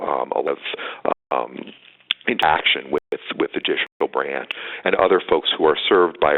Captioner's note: audio dropping